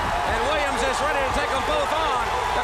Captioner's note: crowd cheering